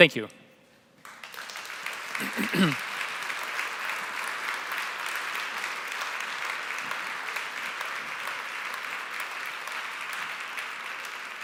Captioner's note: applause